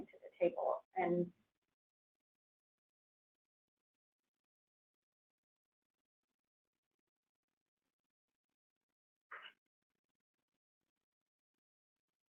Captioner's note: long silent pause